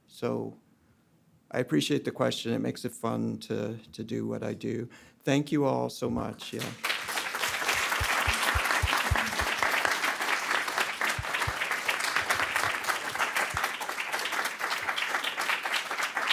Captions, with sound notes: So, I appreciate the question. It makes it fun to do what I do. Thank you all so much. (audience applauding)